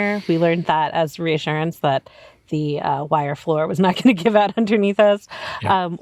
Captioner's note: laughs